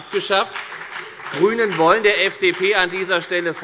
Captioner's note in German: Beifall bei der FDP